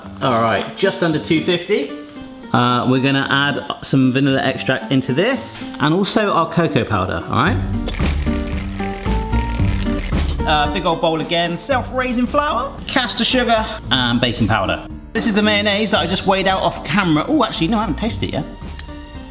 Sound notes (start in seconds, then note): 8.1 bright music; 8.1 whisk clacks at high speed